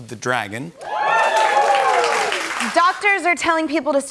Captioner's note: cheers